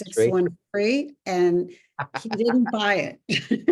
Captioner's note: laughs